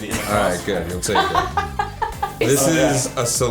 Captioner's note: laughs